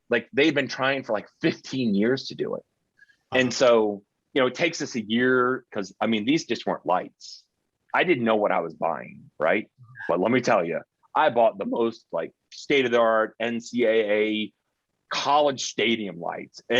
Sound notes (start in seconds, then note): 9.9 chuckling